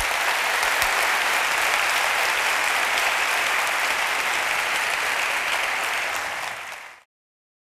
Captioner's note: applause